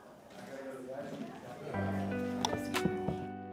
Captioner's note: sounding gavel